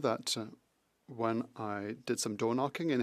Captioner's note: speaking French